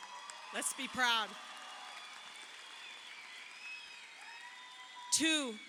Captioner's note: crowd cheering